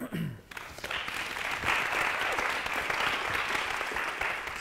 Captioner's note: applause